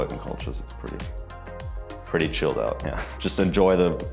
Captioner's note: chuckles